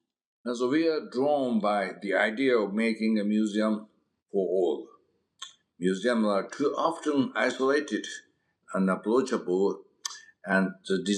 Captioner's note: mouth smack